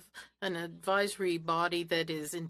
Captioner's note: speaking French